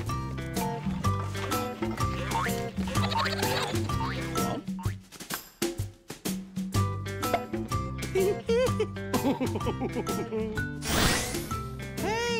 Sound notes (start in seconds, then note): 2.8 giggling; 4.3 laughing